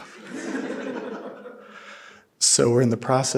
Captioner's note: audience laughing